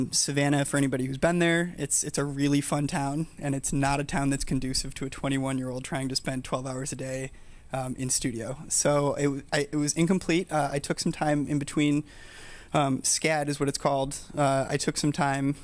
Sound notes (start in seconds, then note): none